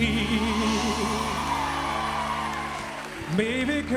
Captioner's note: cheers and applause